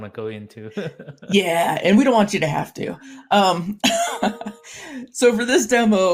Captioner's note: laughs; laughs